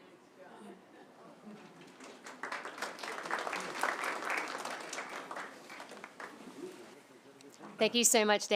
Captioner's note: applause